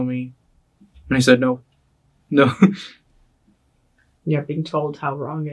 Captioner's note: chuckles